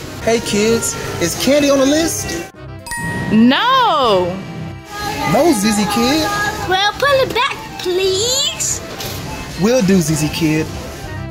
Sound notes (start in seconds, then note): 2.8 chiming